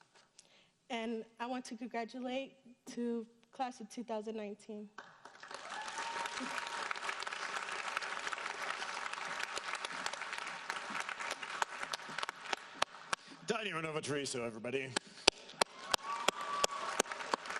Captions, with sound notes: And I want to congratulate to Class of 2019. (audience applauding) - Thania Renovia Treviso everybody. (applauding)